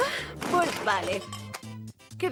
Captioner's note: sigh